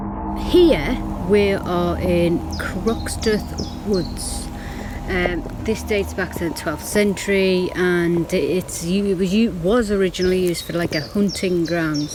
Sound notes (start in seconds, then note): 2.8 birds chirping